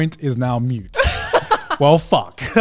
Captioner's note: laughing